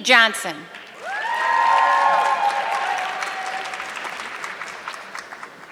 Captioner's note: audience clapping